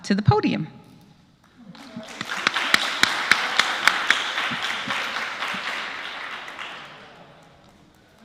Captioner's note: applause